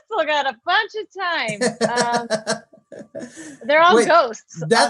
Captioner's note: laughs